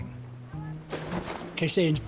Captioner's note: water splashing